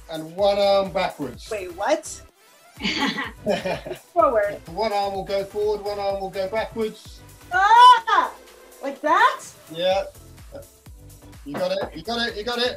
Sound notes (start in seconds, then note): 2.8 laugh